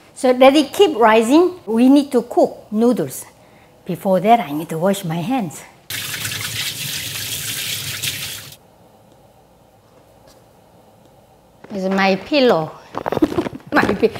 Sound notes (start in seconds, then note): 5.9 water flowing; 13.1 chuckles